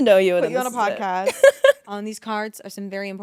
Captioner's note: Ashby laughing